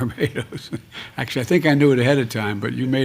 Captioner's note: laughs